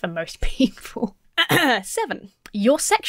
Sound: clears throat

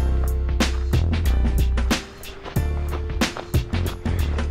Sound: panting

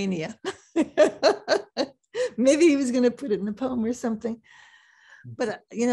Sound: laughs

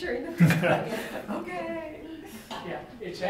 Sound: laughter

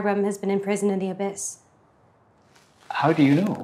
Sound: Jonas scoffs

